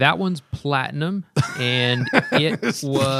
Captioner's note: laughter